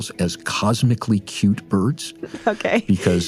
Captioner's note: laughs